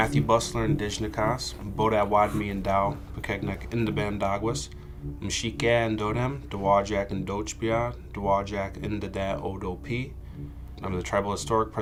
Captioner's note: non-english speech